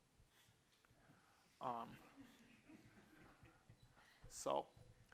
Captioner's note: laughter